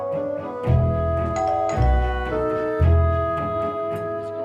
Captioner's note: doorbell chimes; cheery music